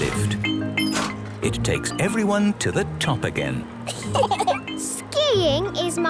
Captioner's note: laughter